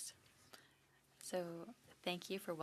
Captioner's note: speaking French